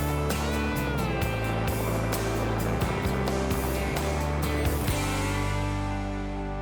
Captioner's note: helicopter sounds